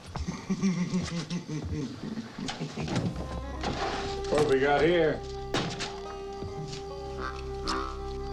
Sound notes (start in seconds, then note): 0.2 chuckling; 3.0 low tense music